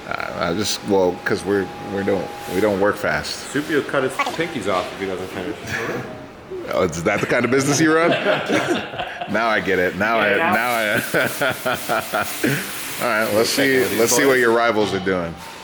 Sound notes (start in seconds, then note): 10.9 laughs